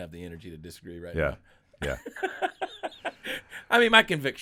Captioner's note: laughing